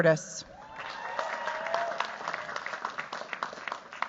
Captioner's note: cheers, applause